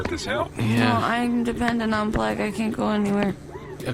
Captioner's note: slurring